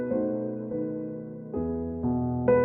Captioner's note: none